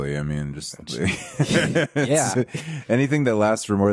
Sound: laughing

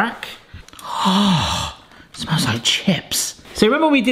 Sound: gasping

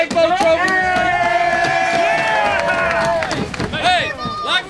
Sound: players cheer

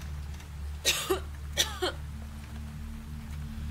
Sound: coughs

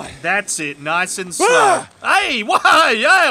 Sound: shouting

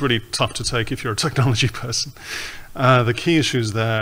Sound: chuckles

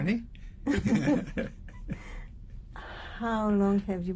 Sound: laughter

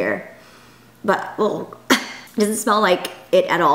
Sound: coughs

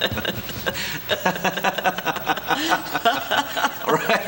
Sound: she laughs; both laugh

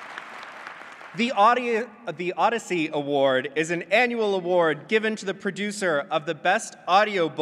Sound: applause

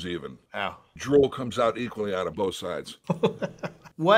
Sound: laughter

